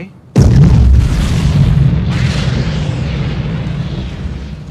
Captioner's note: explosion